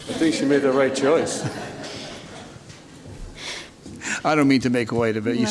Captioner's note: group laughter